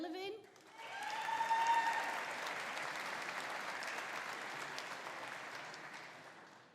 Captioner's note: audience applauding; audience cheering